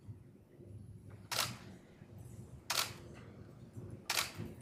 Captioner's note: camera clicking